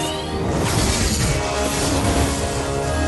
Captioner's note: whoosh